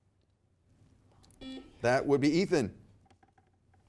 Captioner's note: buzzer beeps